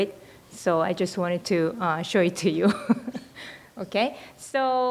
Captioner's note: laughs